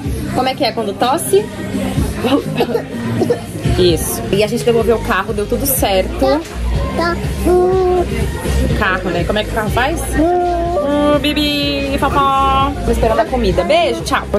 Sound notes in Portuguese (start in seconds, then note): 2.4 finge tosse